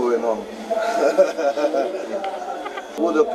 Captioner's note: forced laughter